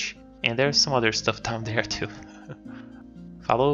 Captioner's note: chuckles